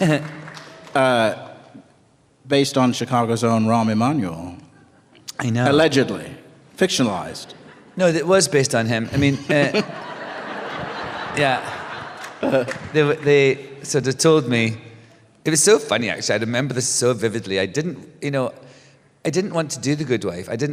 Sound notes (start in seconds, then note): 0.0 scattered applause; 9.1 laughter